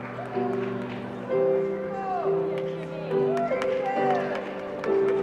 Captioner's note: cheering and applause